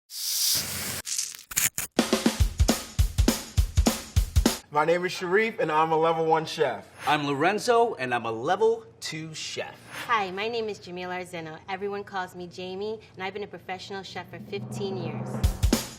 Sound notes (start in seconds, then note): 0.1 pan sizzling; 1.4 peeler rasping; 2.2 upbeat beat; 15.7 upbeat beat